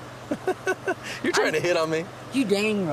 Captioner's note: laughing